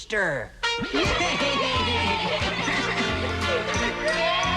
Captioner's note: crowd cheering